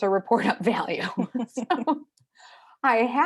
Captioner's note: both laughing